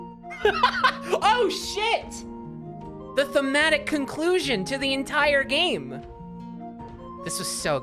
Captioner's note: laughs